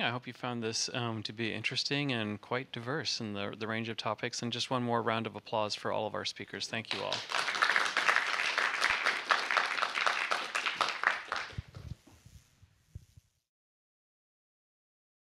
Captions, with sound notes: I hope you found this to be interesting and quite diverse in the range of topics. And just one more round of applause for all of our speakers. Thank you all. [APPLAUSE]